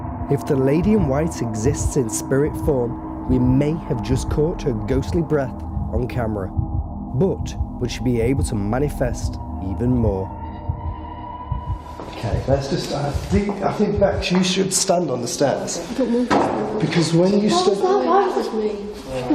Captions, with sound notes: - If the lady in white exists in spirit form, we may have just caught her ghostly breath on camera, but would she be able to manifest even more? Okay, that's just, I think, Bex, you should stand on the stairs. (loudly knocks) Because when you stood-- - What was that bang? - That was me.